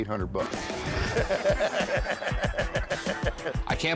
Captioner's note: laughter